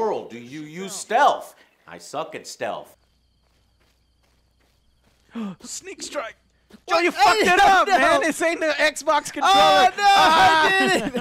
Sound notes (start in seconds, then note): 5.2 gasp